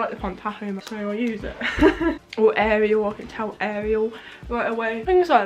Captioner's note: laughs